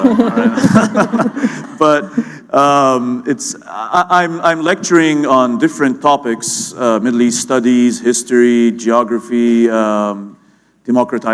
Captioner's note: laughter